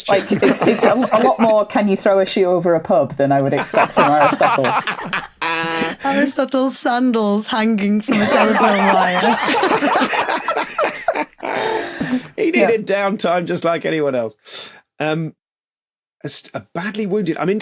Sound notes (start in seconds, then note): 0.0 laugh; 3.6 others laughing; 8.1 laughter intensifies